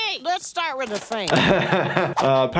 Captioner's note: laughs